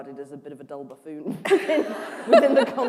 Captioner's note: laughter